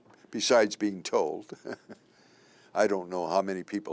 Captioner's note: chuckle